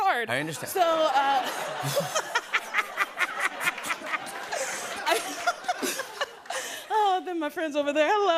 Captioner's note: laughter